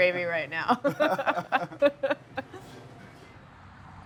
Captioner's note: laughter